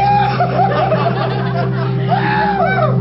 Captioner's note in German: er jubelt